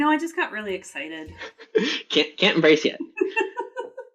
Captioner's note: laughs; laughter